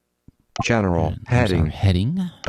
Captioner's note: electronic Voice